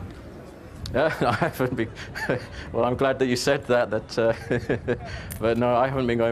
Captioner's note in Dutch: Lacht